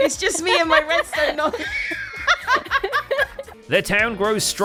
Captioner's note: laughs; wheeze-laughs